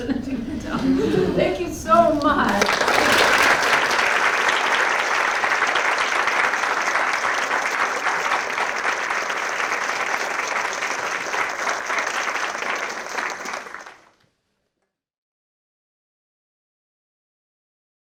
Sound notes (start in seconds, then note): 0.0 laughs; 3.1 applause